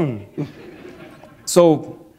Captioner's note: laughter